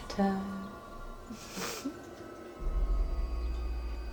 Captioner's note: giggles